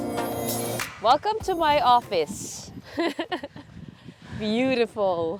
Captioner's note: laughs